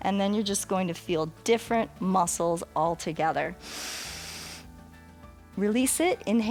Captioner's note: inhales